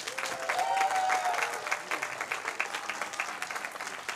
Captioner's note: cheers, applause